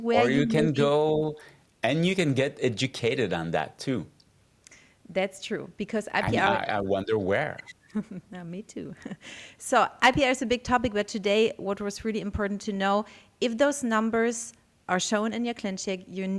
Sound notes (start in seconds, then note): 7.8 chuckles